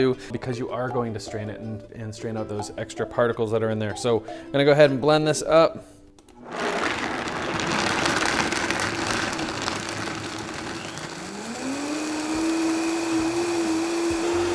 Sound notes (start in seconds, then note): 6.4 grinding; 11.1 whirring